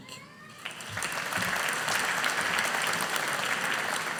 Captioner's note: audience applauding